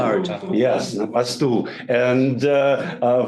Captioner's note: speaks in foreign language